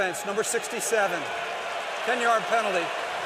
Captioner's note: cheering